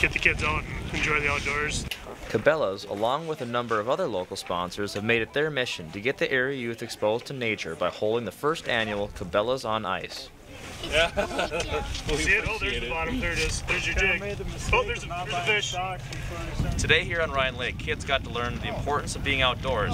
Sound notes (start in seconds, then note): 2.0 voiceover; 10.6 laughs